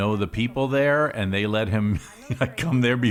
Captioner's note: laughs